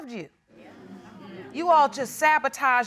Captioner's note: audience murmuring in agreement